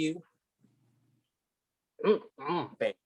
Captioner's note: mumbling with food in mouth in agreement